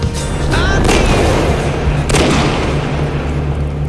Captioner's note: gunshots